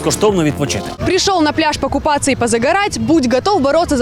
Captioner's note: spoken in Russian